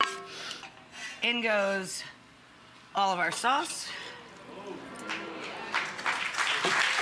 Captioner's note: audience awes and applauds